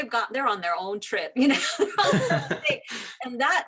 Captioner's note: laughs